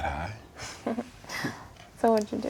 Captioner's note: Naomi laughing